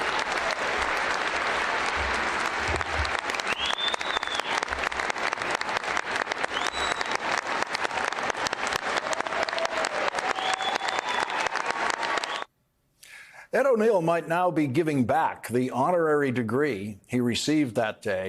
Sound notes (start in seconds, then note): 0.2 applause